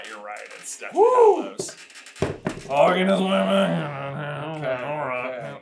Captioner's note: grumbles mightily